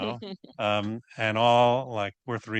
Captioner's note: laughing